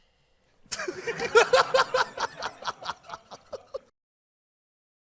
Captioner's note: laughter